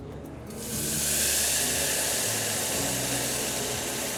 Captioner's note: juice sizzles